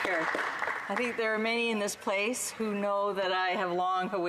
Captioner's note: applause